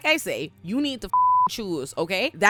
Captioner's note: beep